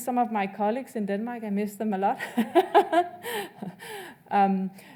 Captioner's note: laughs